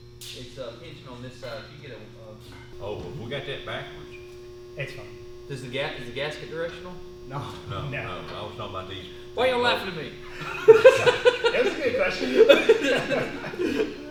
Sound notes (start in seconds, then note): 8.3 laughs; 10.2 laughs loudly